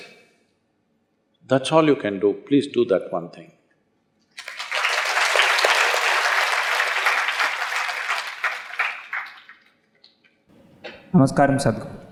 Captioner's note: applause